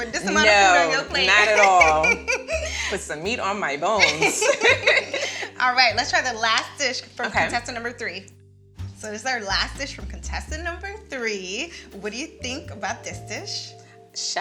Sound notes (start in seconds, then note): 0.0 laughing; 4.6 both laughing